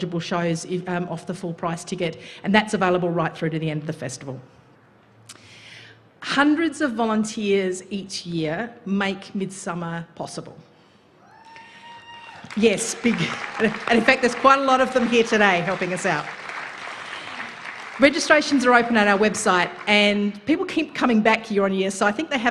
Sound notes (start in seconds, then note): 12.1 applause